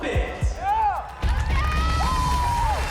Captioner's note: cheering and applause